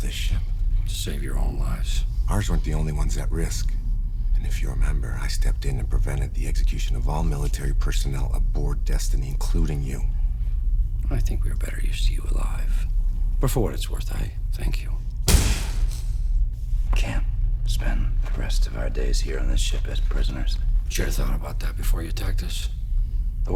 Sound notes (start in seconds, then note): 15.2 bang